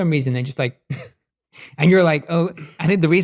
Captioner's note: chuckling